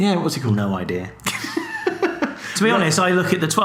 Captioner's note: laughs